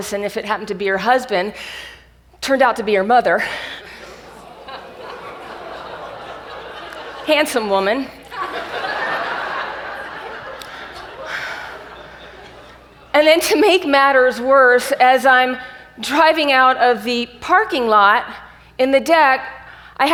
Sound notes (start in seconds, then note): 3.4 audience gasps; 9.1 audience laughs